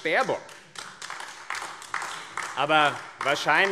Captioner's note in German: Beifall AfD